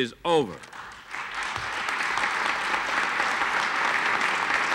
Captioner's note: audience applauds